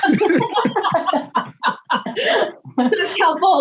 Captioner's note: all chuckles